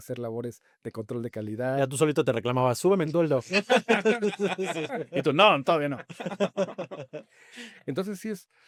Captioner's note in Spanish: risas